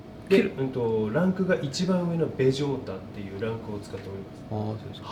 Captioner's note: conversing in japanese